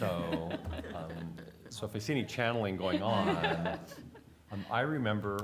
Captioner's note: laughter